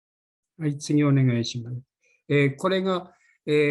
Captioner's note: speaking japanese